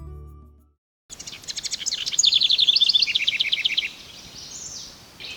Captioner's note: House wrens singing